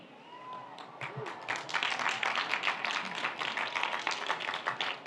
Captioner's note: audience applauds